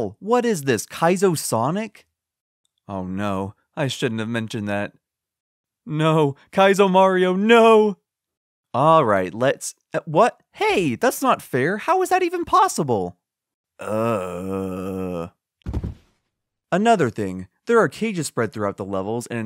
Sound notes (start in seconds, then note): 15.6 thump